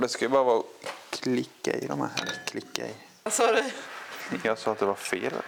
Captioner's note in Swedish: skratt